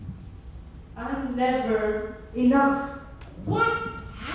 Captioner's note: none